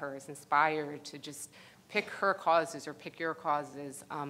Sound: none

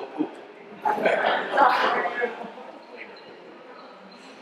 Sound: audience laughs

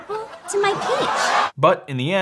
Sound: audience laughing

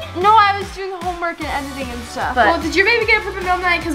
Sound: none

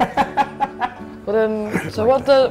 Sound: laughing

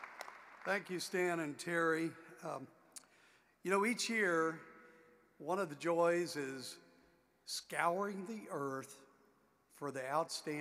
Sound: applause

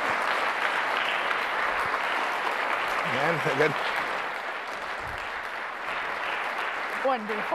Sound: applause

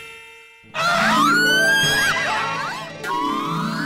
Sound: Babeetta and Jethaa scream

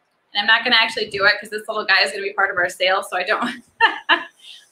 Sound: laughs

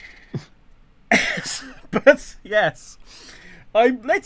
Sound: laughing

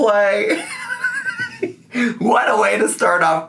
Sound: laughs

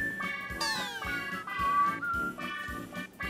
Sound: whistling~

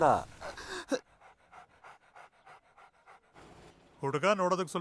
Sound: dog panting

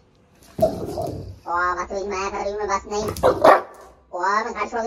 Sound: deep growling; low growl

